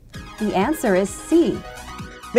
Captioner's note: female announcer speaking